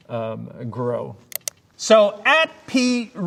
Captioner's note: mouse clicking